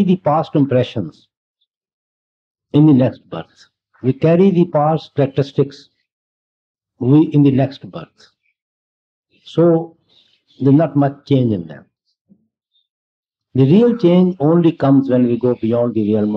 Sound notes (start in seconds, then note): none